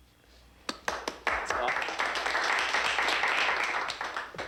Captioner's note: crowd applauding